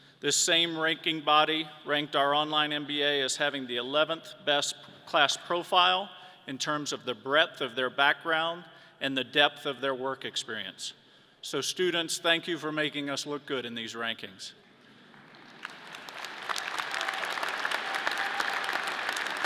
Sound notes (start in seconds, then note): 15.0 audience clapping